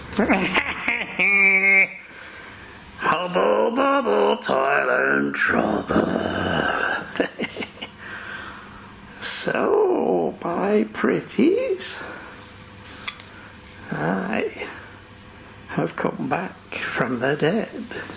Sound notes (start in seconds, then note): 0.1 laughs; 6.4 laughs